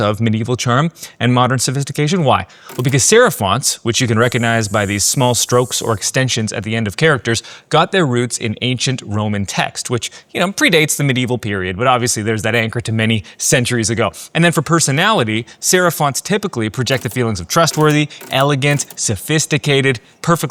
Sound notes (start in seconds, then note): 2.7 keyboard clicking; 4.8 pencil scratching; 16.8 keyboard clicking